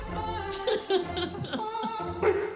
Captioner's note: laughs; barks